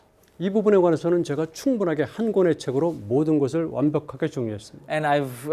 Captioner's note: speaking in Korean